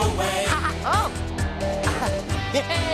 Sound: laughs

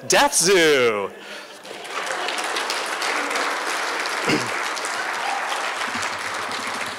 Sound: applause

